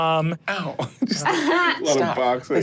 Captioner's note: laughs loudly